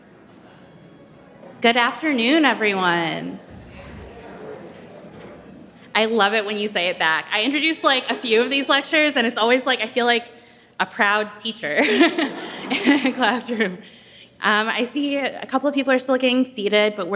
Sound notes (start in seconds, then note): 0.2 people chattering; 6.0 audience chattering